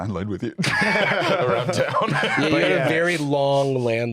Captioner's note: laughs